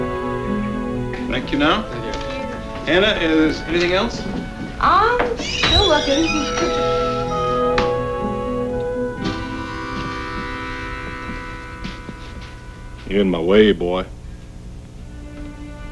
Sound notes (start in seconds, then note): 9.8 footsteps approaching; 13.2 man's voice